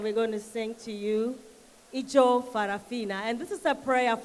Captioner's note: foreign language